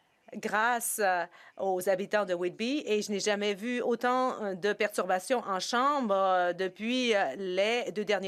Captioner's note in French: voix de l'interprète